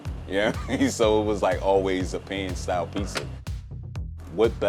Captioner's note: laughing